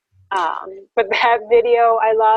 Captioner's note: laughing